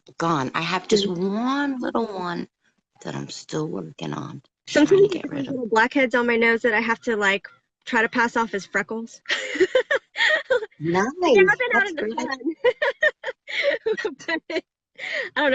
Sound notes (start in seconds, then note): 9.2 laughs